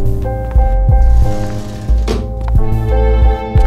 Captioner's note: Door opening